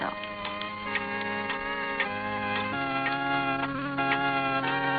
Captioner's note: clock ticking; somber organ music